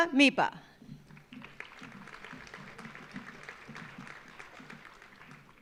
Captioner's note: audience applauding